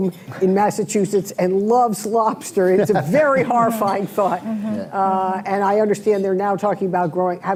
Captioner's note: laughter